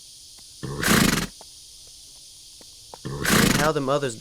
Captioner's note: horse snorting